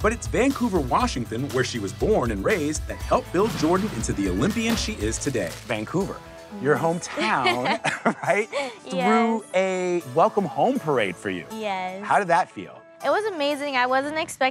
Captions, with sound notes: But it's Vancouver, Washington, where she was born and raised that helped build Jordan into the Olympian she is today. Vancouver, your hometown... [chuckles] - Right? - Yes. ...threw a welcome home parade for you. - Yes. - How did that feel? It was amazing. I wasn't expecting